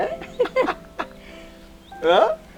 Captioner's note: laughing